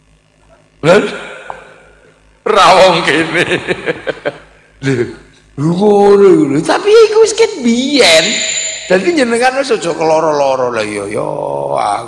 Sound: laughing

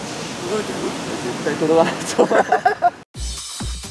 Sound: laughs

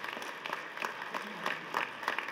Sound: applause

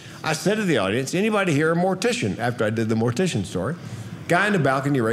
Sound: none

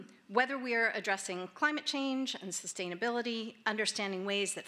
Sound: none

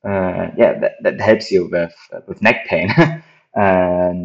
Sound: laughs

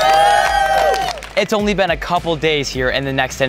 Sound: housemates cheering

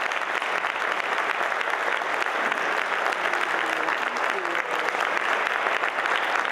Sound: applause

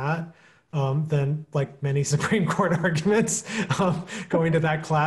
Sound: chucking

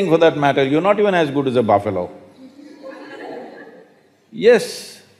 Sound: laughter

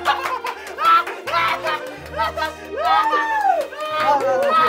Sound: they just continued to laugh

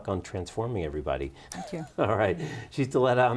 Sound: laughs

